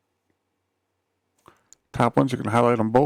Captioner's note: silence